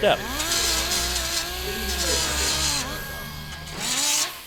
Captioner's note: tool whirs